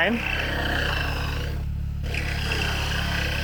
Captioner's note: drill buzzing